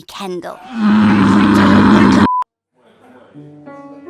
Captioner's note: annoyed, Pained Groan